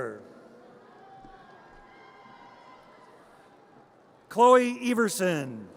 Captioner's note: audience cheers